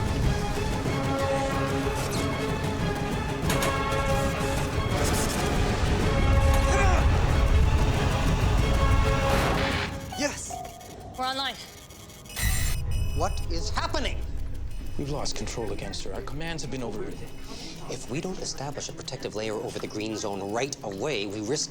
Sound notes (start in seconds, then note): 1.7 electricity buzzing; 3.7 satellite creaks; 6.6 grunts; 12.9 alarm blaring